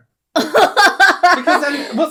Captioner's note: disgusted Laughter